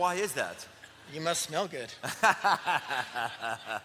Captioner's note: laughs